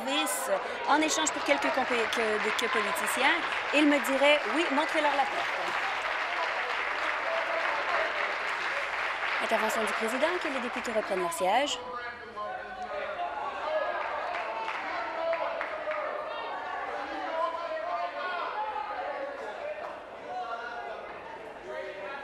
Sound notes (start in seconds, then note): 5.0 applause; 9.0 continued applause